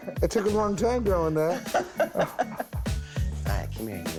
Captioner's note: laughs